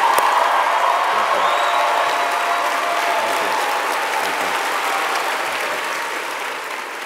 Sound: audience applauding

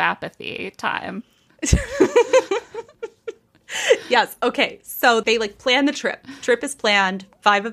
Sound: laughing

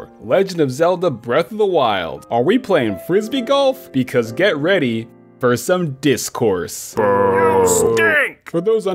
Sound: boo

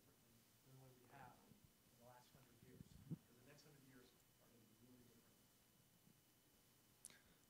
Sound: background conversation

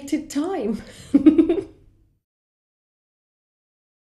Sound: giggling

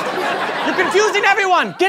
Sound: yells

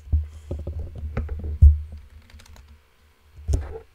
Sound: keyboard typing

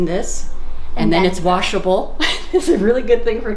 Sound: laughing

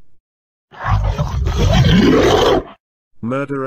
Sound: monsters Roaring

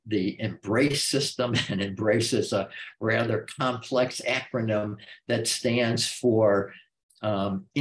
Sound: chuckle

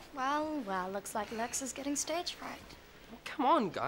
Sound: none

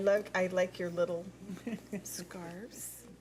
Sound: laughs

